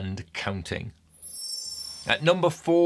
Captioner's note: screen twinkling